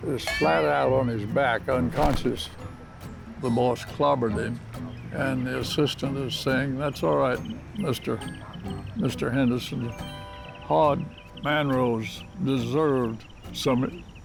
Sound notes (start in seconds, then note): none